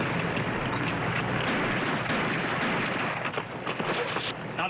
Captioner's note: gunshots firing